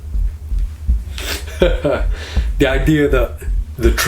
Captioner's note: laughing